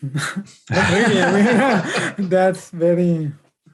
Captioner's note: group chuckling